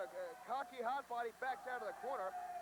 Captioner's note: crowd chatter